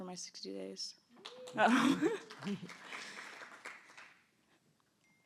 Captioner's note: applause